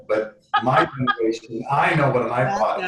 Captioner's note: laughs